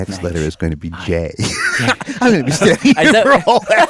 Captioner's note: laughs